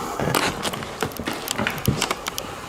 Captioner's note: strong footsteps next to us